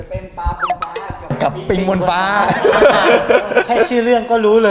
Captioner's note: laugh